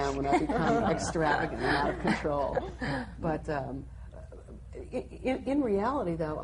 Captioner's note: panel laughs